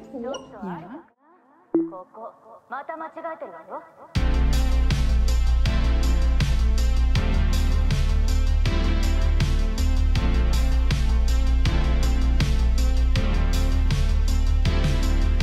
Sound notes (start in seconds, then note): 1.8 speaking in Japanese; 4.2 chill music; 12.0 chill music continues